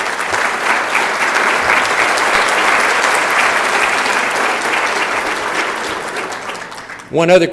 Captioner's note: applause